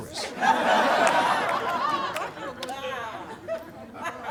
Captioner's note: audience laughing